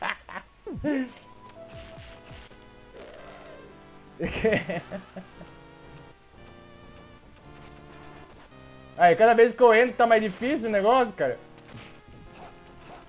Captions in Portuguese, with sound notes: (risos) (mais risos) Cada vez que eu entro na "dungeon" fica mais difícil!